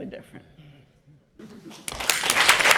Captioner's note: chuckles; applause